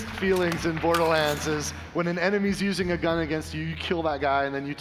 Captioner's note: applause